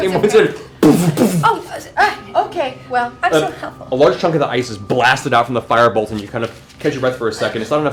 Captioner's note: boom boom